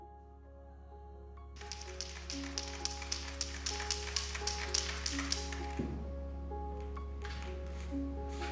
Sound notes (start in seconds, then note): 0.0 relaxing piano music; 1.6 spray can shaking